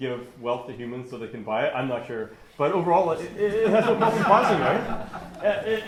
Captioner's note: laughter